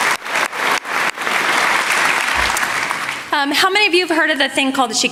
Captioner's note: applause